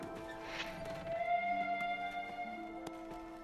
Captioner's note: train whistle blows